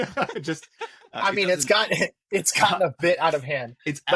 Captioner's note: laughs